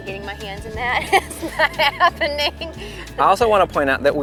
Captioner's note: laughing